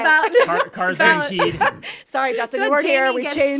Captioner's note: group chuckling